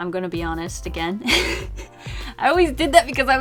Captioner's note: laughs